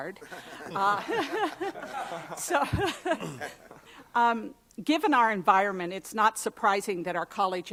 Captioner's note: laughter